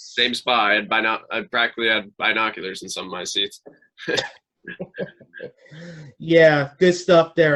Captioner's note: both hosts laugh